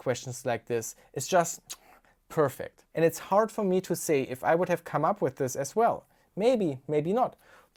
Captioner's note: kiss